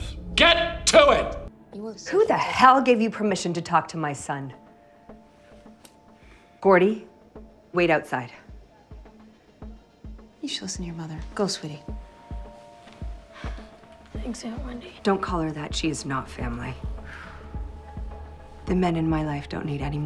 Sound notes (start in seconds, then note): 13.3 sighs